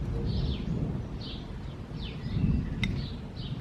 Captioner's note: lightning Sounds